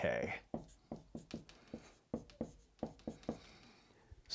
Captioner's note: marker scratching